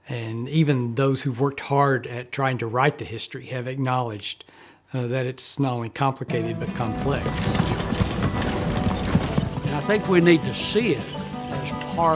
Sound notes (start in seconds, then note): 6.4 wheels rumbling